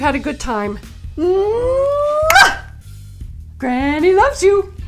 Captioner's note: blows kiss